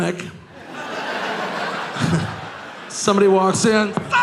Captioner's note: audience laughing